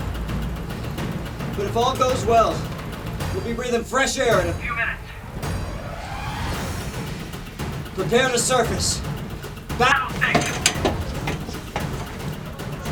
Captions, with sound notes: But if all goes well, we'll be breathing fresh air in a few minutes! Prepare to surface! BATTLE STATIONS! [crew members yelling]